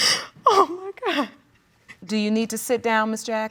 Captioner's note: sobs